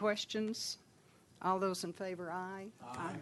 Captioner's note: chorus of ayes